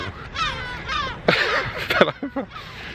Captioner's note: laughing